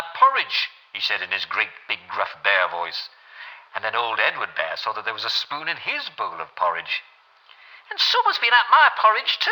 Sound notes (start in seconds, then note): 6.8 creaky old voice